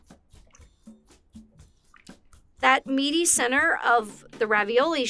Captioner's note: water laps